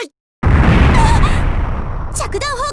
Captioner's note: panicked cry